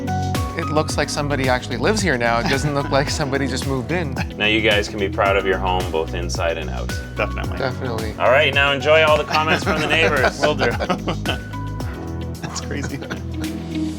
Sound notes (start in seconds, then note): 12.4 laughs